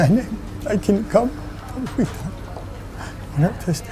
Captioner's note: crying